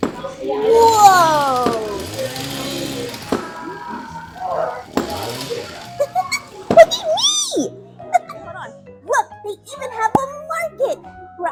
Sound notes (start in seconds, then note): 6.0 laughs